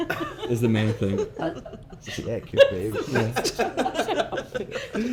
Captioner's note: laughing; laughing